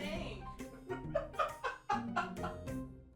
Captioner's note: awkward laughter